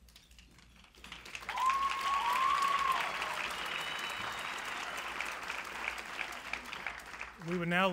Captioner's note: clapping